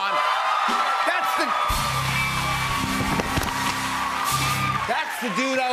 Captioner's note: cheers and applause